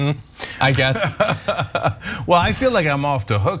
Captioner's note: laugh